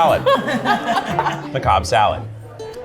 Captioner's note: laughter